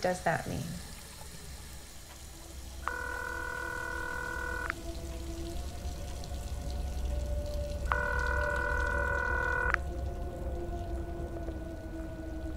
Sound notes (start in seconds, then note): 2.8 phone ringing; 6.8 wind blowing